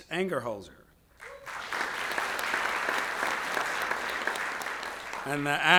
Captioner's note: audience applauds